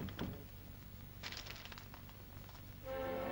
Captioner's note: door closes; paper rustles; dramatic ominous music